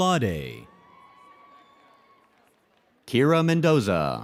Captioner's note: audience cheers and applauds